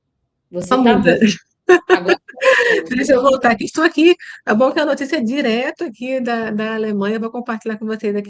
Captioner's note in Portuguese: risadas